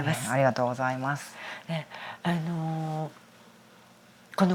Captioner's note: laughs